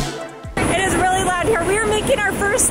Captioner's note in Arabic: ضوضاء صاخبة من الشاحنات